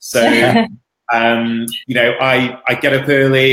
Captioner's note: both laughing